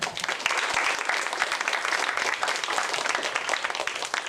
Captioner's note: applause